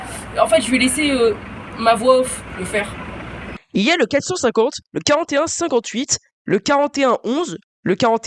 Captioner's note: voiceover